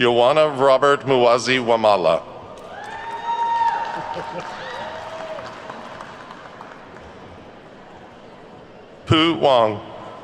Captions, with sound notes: Yowana Robert Muwazi Wamala. (attendees whooping and clapping) Pu Wang.